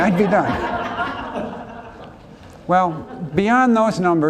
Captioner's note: laughs